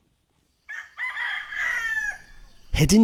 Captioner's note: rooster crowing